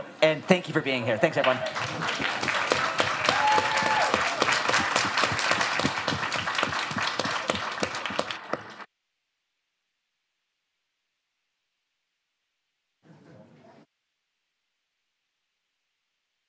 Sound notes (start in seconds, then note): 1.1 audience applauds